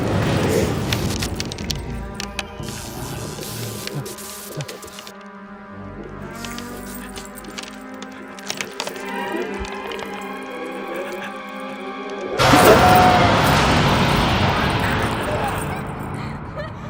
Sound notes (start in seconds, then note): 1.9 electric discharges; 8.7 music swelling; 13.5 voice of Levine in distance